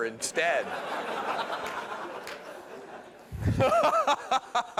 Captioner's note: laughter